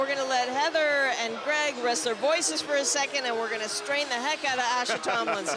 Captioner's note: laughter